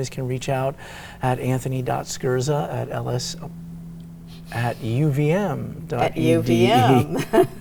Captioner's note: laughs